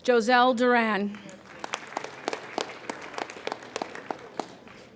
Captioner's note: applauding